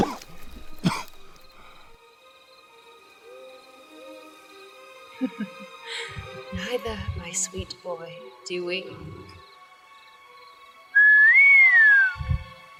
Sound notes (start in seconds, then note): 5.2 giggles; 10.9 whistles